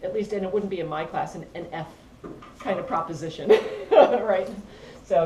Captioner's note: laugh